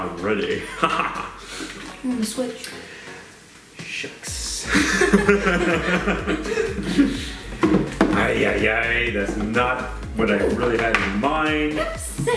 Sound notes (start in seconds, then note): 1.6 laughs; 4.6 both laugh